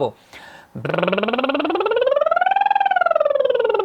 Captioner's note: lip bubbling